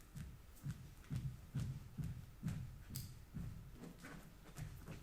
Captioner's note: footsteps thumping